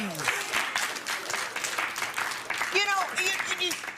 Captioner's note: applause